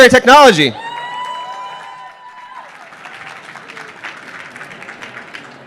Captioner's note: applause